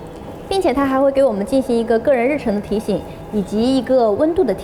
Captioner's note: speaks foreign language